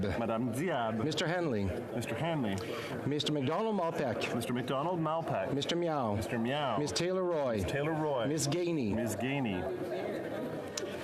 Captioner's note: calling of recorded vote